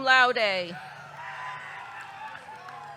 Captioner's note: audience cheering